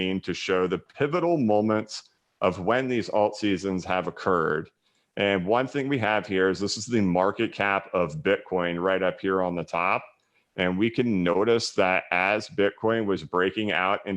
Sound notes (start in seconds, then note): none